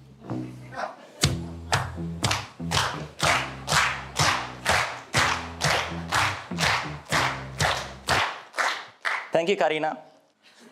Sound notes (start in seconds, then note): 2.7 clapping